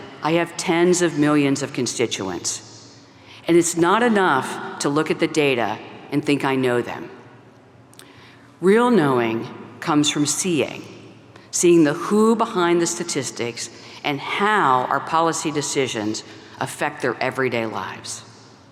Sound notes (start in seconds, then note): none